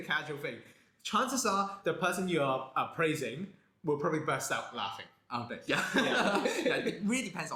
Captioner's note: 大笑起來